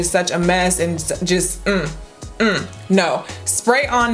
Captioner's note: negative hum